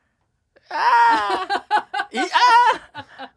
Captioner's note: laughing